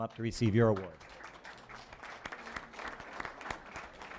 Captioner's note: applause